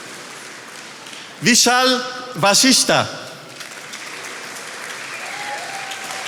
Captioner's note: attendees applauding